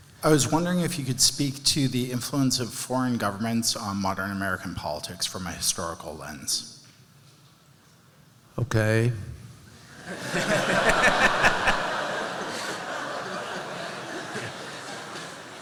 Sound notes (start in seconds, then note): 9.9 laughter